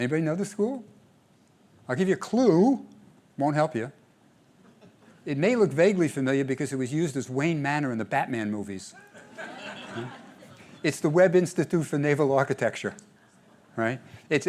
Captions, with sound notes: Anybody know this school? I'll give you a clue. It won't help you. It may look vaguely familiar because it was used as Wayne Manor in the Batman movies. [LAUGHTER] It's the Webb Institute for Naval Architecture.